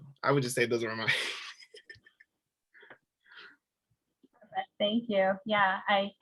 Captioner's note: laughing